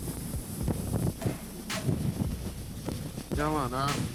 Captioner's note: wind blowing